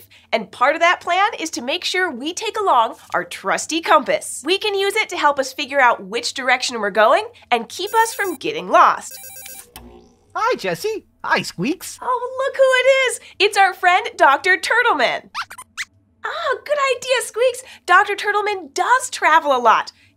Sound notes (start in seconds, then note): 9.0 phone ringing; 15.4 squeaks squeaks